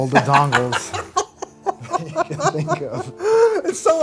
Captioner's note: laughing